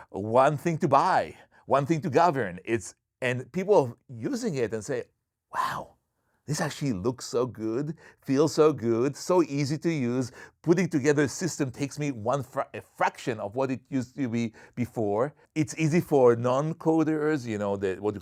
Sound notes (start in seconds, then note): none